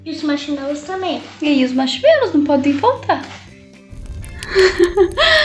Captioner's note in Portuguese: som fogueira